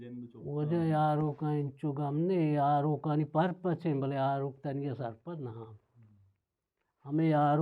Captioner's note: curses